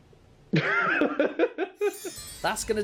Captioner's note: laughs